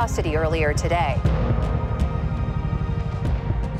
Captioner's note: helicopter blades churning